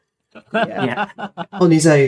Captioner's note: laughing